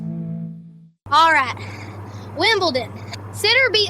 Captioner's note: breath